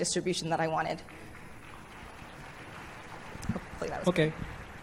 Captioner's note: applause